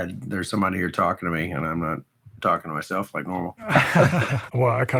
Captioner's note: laughs